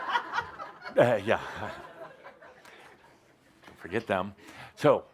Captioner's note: laughter